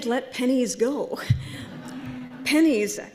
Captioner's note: laughter